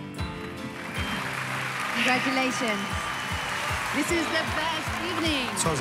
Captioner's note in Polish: Aplauz